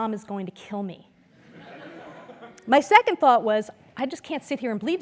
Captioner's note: laugh